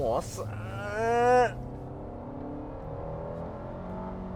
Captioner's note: car revving